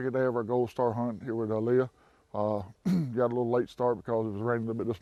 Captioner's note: clears throat